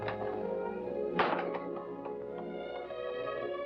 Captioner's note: door closing